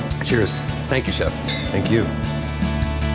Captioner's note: glasses clink